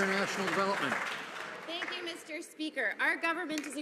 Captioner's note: some Applause